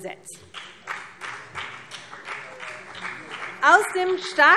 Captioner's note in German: Beifall CDU und BÜNDNIS 90/DIE GRÜNEN